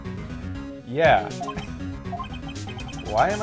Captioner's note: laughs